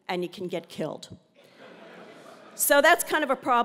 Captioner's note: laugh